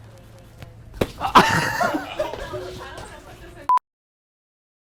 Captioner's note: crew laughing